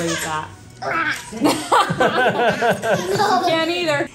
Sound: babbles; laugh

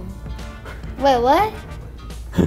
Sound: belly laughs

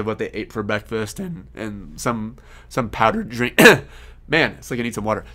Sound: coughs

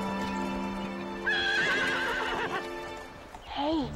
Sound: horse neighs

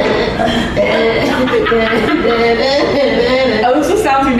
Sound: laughing

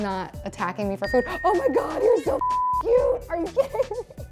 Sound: beep

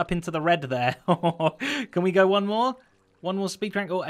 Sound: chuckles

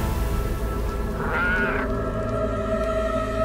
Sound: goat bleating

